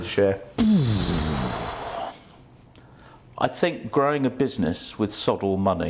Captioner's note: exhales deeply